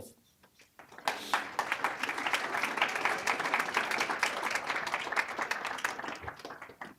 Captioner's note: applause